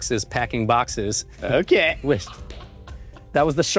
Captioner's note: laughs